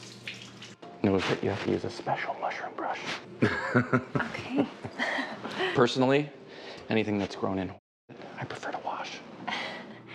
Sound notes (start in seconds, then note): 3.4 all laughing